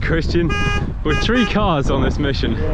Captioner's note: honk